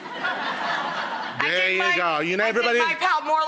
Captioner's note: laughing